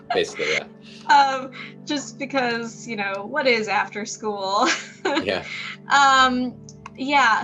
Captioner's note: chuckles